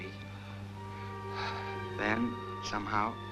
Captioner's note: sighing